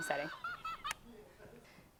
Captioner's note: Elmo laughing